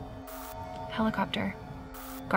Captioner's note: static crackles